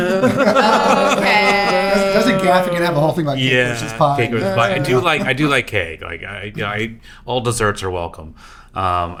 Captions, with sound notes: (Laughing) I was gonna have to get out the whole thing about cake, which is pie. I do like cake. All desserts are welcome.